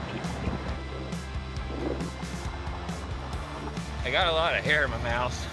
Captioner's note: laughing; wind gusting; upbeat music